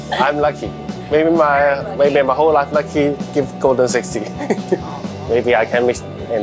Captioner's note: laughs; laughs